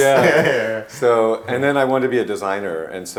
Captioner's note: laughing